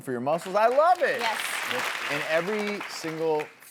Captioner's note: audience applauds